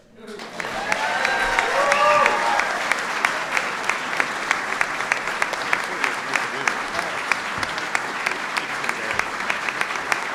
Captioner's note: applause